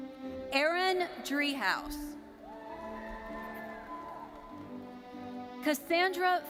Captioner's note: audience cheering